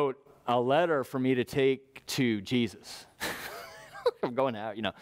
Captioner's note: laugh